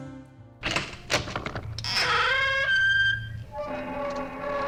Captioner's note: door opens, creaks